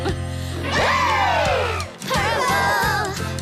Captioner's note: screams